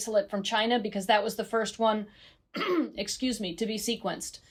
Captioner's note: clears throat